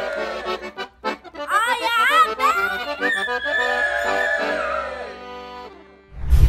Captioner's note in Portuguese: Som de comemoração; grita